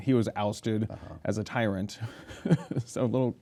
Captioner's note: laughs